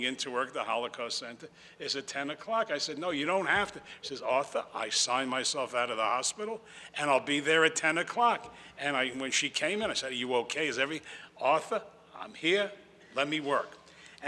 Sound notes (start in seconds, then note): none